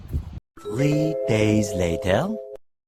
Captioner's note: Sound Effect - SpongeBob transition "Three days later"